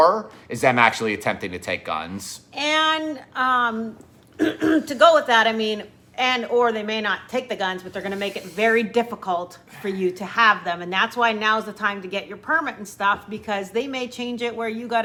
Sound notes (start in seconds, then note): 4.4 clears throat